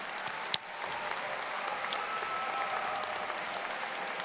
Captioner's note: audience claps